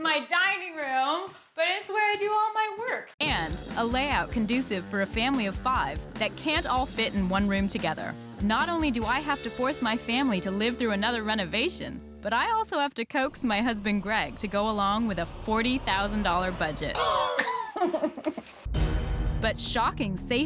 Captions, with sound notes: It's my dining room, but it's where I do all my work. ...and a layout conducive for a family of five that can't all fit in one room together. Not only do I have to force my family to live through another renovation, but I also have to coax my husband, Greg, to go along with a $40,000 budget. [ Coughs ] [ Laughs ] But shocking safety issues